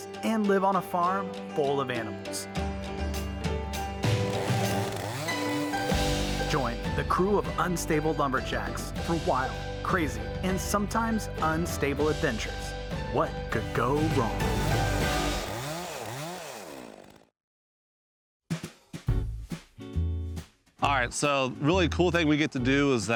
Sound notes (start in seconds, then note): 3.8 instrumental music; 4.0 chainsaw humming; 15.2 chainsaw humming; 19.0 upbeat music